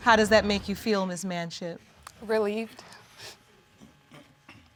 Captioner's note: sniffling